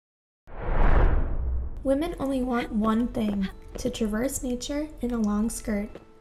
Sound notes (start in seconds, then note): 0.5 logo swoosh